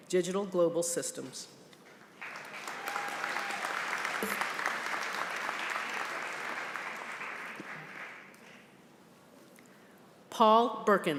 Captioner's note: applause